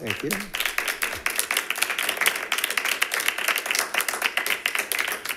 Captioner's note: members clapping